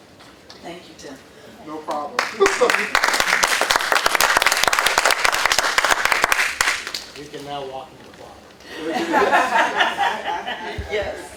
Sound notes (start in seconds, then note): 2.1 applause; 8.7 laughter